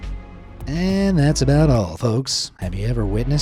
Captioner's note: in a normal SPEAKER voice